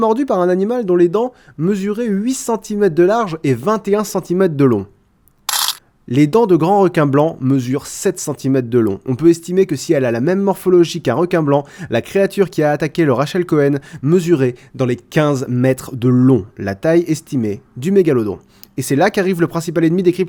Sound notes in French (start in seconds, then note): 5.5 Bruit de pièce tombant dans un bocal